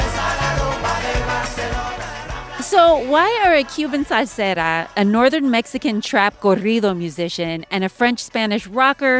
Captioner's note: singing in Spanish; non-English language spoken